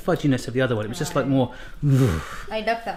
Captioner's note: groans